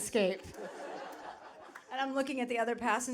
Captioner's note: audience laughing